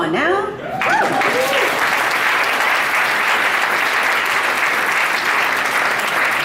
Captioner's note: audience applauds